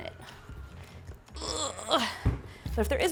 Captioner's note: groaning